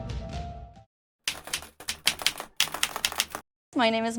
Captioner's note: keyboard keys clicking